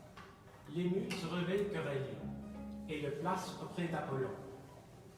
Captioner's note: speaking in a foreign language